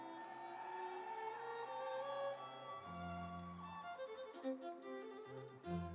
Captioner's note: audience cheering; instrumental music